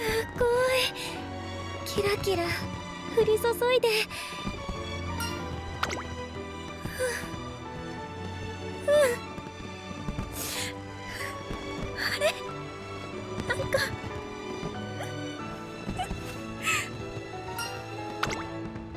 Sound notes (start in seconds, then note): 10.4 sniffle; 14.2 gulp